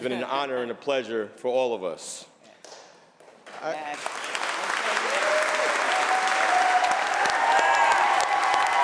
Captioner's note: applause; cheers and applause